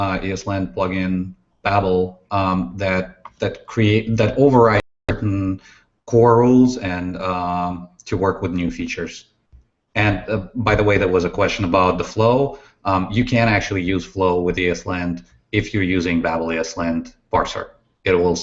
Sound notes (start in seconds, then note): none